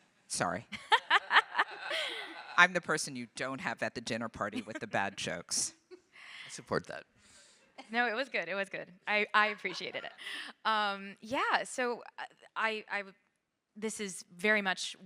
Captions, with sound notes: Sorry. (audience laughing) I'm the person you don't have at the dinner party with the bad jokes. - I support that. - No, it was good, it was good. I appreciated it. Yeah, so this is very much